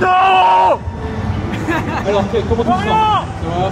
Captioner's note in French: rires